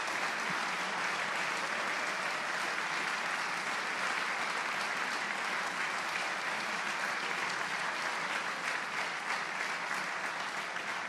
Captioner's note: applause